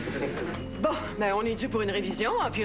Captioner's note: Rires